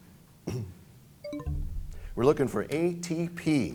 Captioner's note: bell chimes, time expires